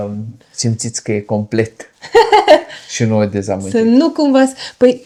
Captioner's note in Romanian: râsete